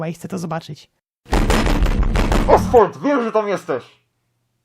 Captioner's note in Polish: walenie w drzwi